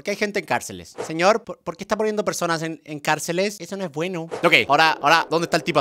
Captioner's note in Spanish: voz de niño